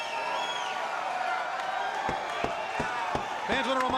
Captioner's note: crowd cheering